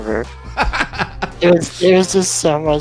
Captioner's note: laughs